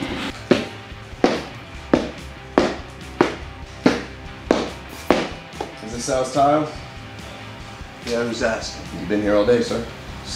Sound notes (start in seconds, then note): 0.2 heavy footsteps